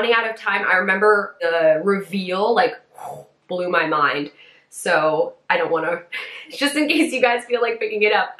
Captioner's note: makes whooshing noise